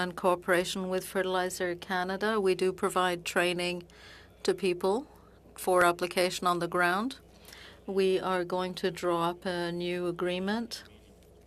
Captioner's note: speaking French